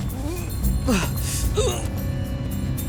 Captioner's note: grunting